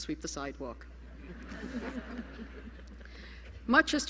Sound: laughter

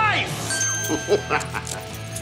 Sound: laughing

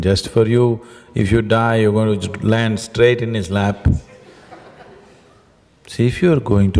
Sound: laughter

